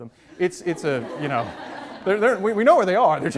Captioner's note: audience laughs